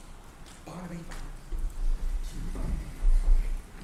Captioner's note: discreetly, to Barnaby